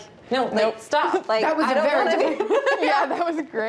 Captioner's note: laughing